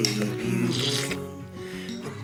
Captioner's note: slurp